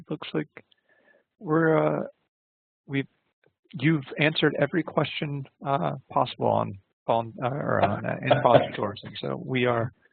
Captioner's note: laughter and indiscernible speech